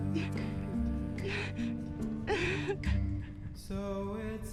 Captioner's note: Jill crying